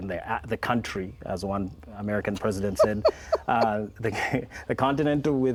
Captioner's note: laughs